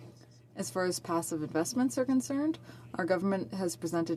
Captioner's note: speaking French